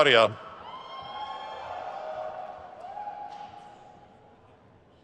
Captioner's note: crowd cheers